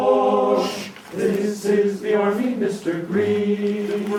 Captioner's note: shushing